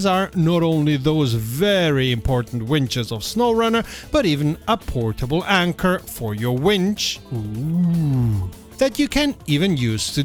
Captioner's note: ooooooooooooooh